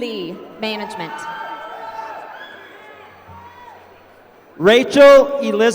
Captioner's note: applause